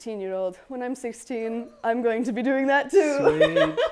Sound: laughs

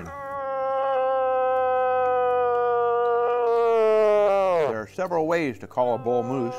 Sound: bellows

